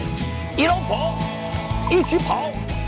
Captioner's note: in Shanghainese